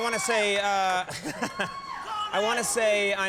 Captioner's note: laughing